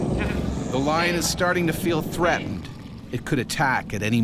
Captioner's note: voiceover